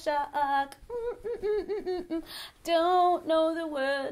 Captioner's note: hums the tune